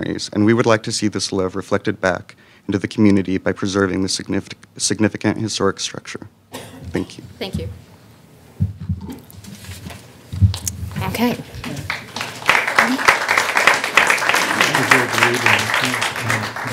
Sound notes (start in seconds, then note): 11.6 applause